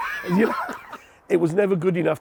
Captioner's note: laughing